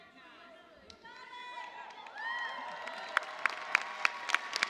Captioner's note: cheers and applause